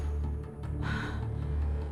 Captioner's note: gasp